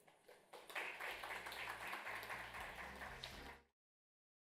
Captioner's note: audience applauds